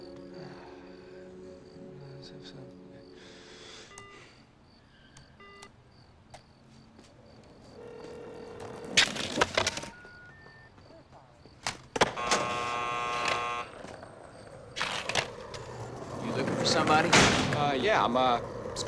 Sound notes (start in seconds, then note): 6.3 <i> rings</i>; 9.9 <i> three beeps</i>; 12.0 <i> door buzzes</i>